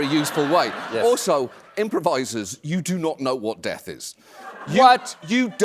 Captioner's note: laughter